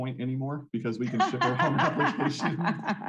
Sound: laughing; both laughing

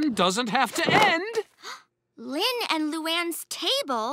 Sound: gasps

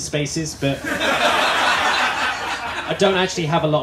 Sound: laughter

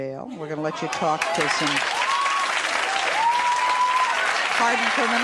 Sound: audience applauding and cheering

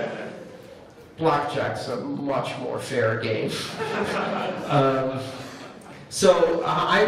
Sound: laughter

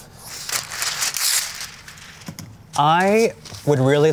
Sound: paper ripping

